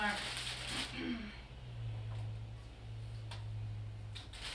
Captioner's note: crinkling